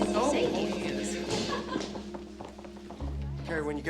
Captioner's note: phone ringing